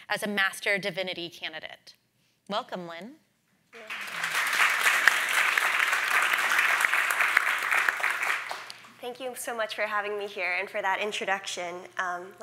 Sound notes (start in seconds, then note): 3.8 audience applauding